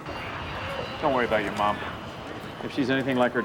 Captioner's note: none